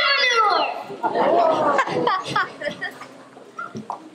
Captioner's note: laughter